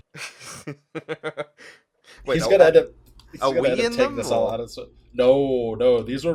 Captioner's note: laughter